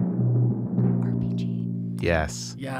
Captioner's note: drum-roll; whispering